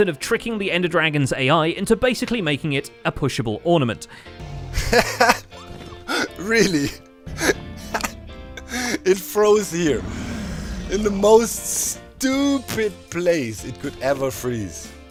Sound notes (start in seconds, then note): 4.0 dragon roars; 7.2 laughs